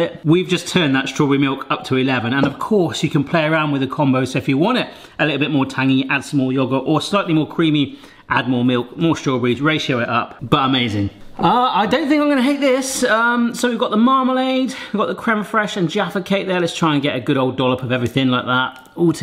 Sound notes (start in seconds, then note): none